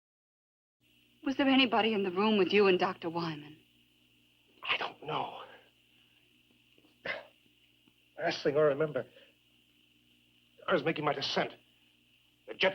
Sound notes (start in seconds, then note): 4.6 groans